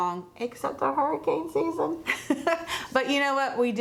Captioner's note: laughs